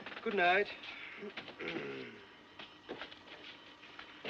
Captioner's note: Limpa a Garganta